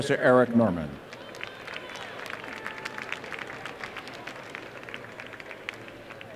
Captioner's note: applause